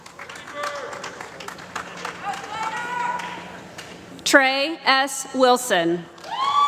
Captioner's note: applause